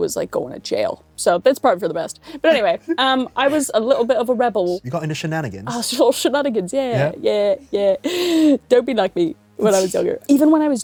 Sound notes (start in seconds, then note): 3.7 British accents